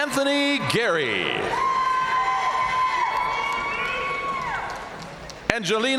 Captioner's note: audience cheering and applauding